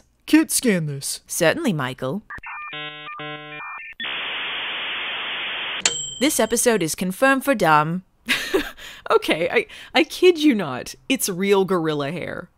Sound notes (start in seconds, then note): 2.3 dial-up router noise